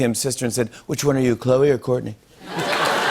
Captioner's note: As Trump; laughter, applause